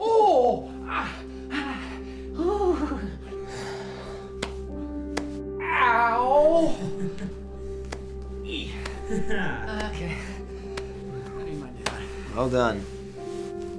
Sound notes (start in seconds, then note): 0.2 whimpering; 6.7 chuckling